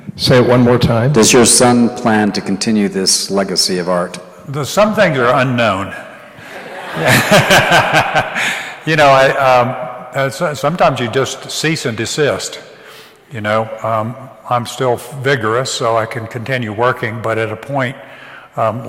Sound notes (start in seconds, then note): 6.3 laughs; 6.6 audience applauds